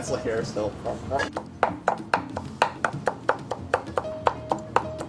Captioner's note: pestle thudding in bowl